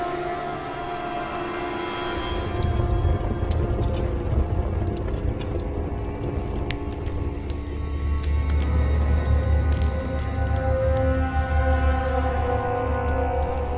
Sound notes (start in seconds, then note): 2.7 dramatic music; 2.7 fire crackling; 6.5 Max snaps finger